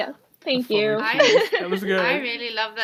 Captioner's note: laughs